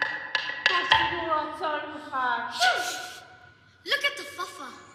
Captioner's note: non-english speech